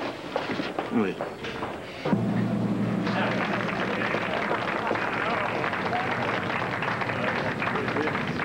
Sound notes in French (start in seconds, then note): 3.0 Applaudissements